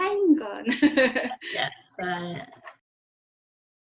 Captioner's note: laughs